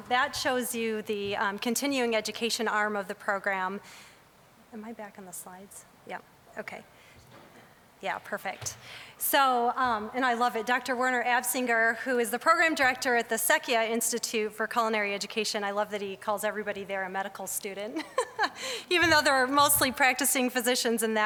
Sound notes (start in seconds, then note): 18.1 laughing